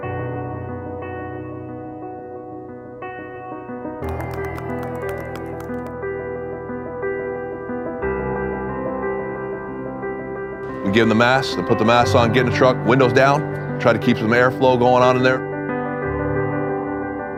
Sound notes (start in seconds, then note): 0.4 lighthearted music playing; 4.0 people applauding